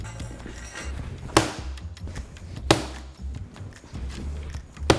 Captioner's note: knife thudding